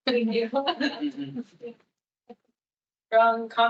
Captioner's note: attendees laughing